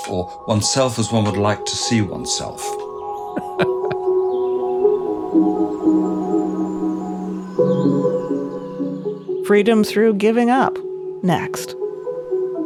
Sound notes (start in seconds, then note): 3.2 laughing; 3.5 bright music